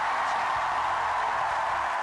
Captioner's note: cheers, applause